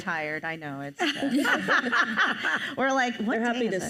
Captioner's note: panelists laugh